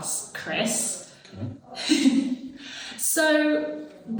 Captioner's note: laughs